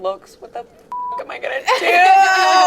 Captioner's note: beep